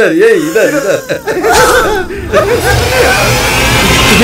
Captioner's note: Laughing